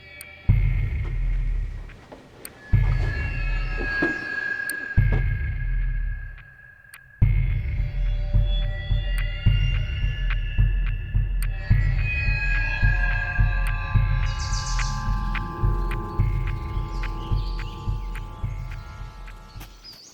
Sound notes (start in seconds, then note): 0.1 unsettling music; 8.9 unsettling music continues; 14.5 birds chirping